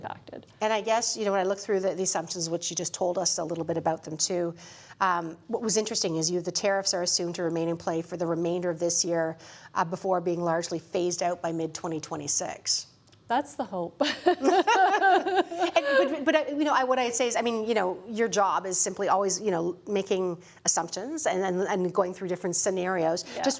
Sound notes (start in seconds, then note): 14.0 laughter